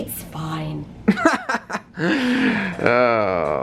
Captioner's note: laughing